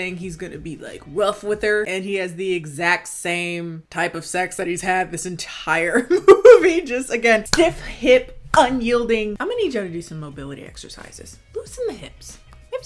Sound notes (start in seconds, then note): 6.0 chuckling